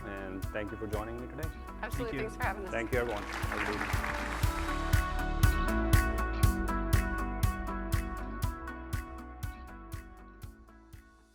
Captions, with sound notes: And thank you for joining me today. Absolutely. Thanks for having us. Thank you everyone. (audience applauds) (upbeat music)